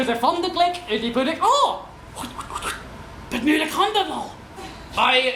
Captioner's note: “Czech”, full of shock and disbelief